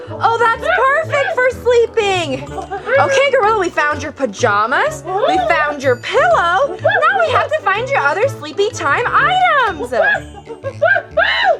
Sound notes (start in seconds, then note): 2.3 exciting gorilla sounds